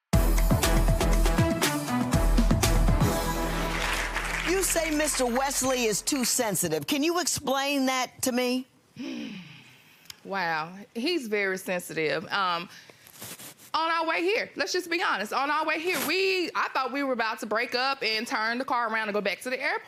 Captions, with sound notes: (upbeat music) - You say Mr. Wesley is too sensitive. Can you explain that to me? - (sighs) Wow, he's very sensitive. On our way here - let's just be honest, on our way here